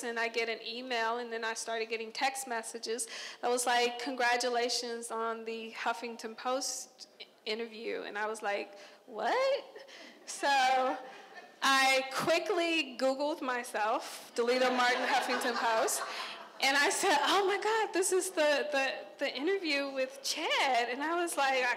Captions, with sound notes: and I get an email and then I started getting text messages. It was like congratulation on The Huffington Post interview and I was like what? (crowd laughing) So, I quickly googled myself Delita Martin, Huffington Post and I said oh my god, this is the interview with Chad.